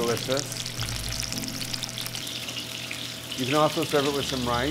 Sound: salmon sizzling

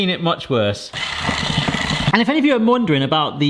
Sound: motor whines

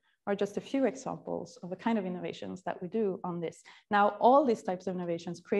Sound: none

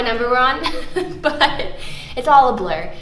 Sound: laughs

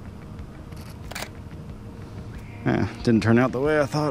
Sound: shutter closes

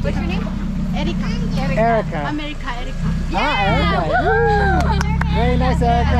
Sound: laugh

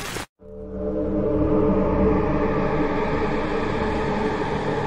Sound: eerie Sound

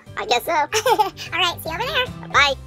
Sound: laughs

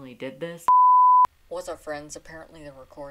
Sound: beep

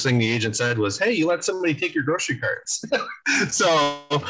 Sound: laughs

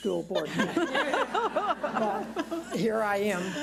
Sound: laughs

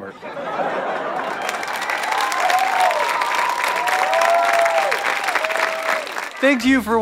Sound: audience applause

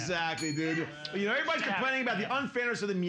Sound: bell softly chimes

